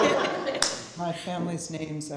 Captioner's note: laughter